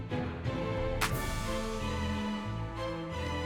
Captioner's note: clap!